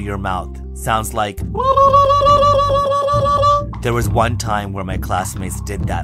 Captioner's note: hooting